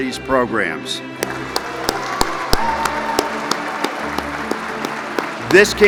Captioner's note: audience applauding